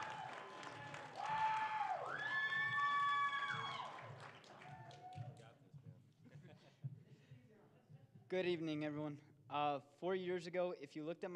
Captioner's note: cheering and applause